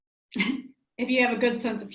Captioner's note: giggles